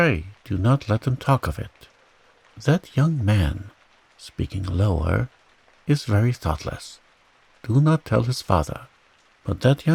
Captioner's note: speaking lower